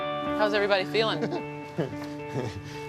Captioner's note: laughs